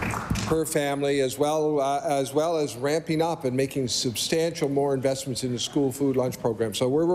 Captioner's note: applause